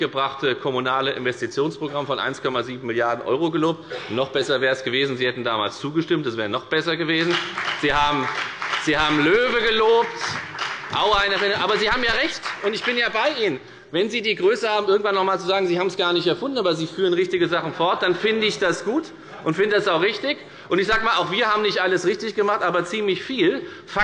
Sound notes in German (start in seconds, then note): 7.1 Beifall bei der FDP und bei Abgeordneten der SPD